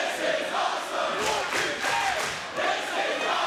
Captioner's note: crowd clapping